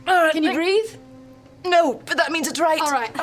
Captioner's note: strained